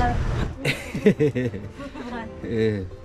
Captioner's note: laughter